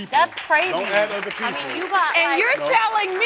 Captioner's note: crowd clapping